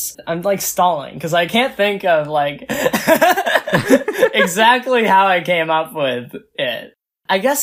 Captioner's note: both laugh